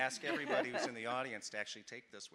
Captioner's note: people laughing